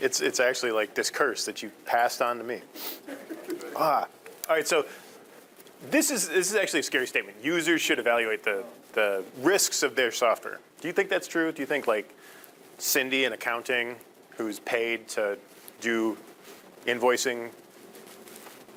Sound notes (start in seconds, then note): 3.0 audience chuckling